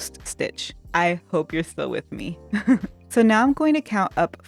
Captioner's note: chuckle